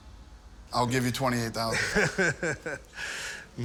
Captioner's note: laughs